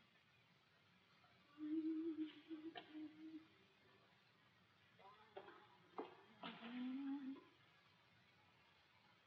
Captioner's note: hums